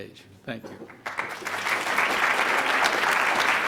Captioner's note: clapping